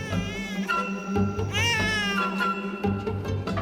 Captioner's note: baby crying